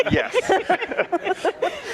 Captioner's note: laughter